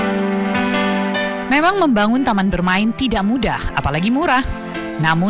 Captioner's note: non-english speech